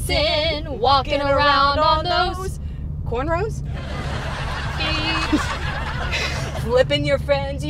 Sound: laughter

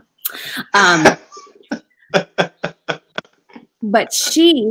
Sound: laughing

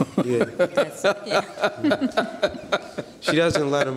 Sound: laughing

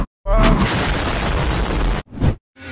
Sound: explotion

